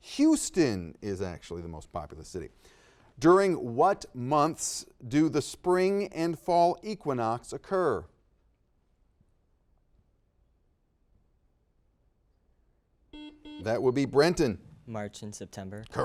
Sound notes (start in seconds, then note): 13.1 buzzer dings